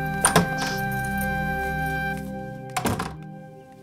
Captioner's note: Door opening and closing